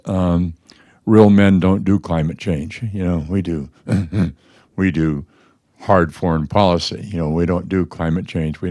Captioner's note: laughs